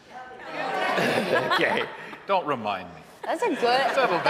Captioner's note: audience laughing